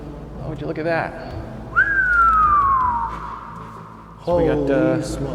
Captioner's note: whistles